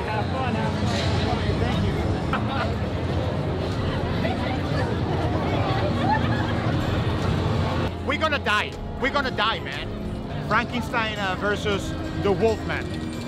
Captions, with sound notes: (crowd noises) - We're gonna die. We're gonna die man. Frankenstine vs. the Wolfman.